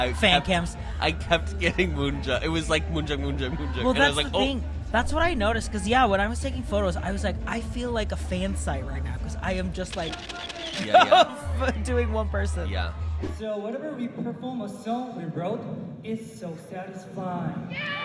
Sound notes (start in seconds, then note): 9.9 camera shutter sound